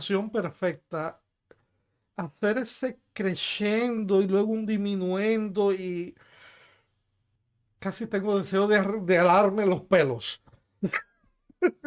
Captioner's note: laughs